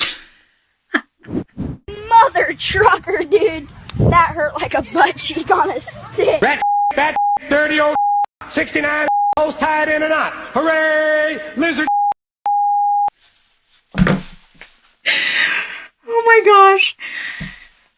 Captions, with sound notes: - Mother trucker dude, that hurt like a butt cheek on a stick! - Bat (beep), bat (beep), dirty old, 69 (beep), hose tied in a knot, hooray, lizard (beep) (beep)! (phone thumping) - Oh my gosh.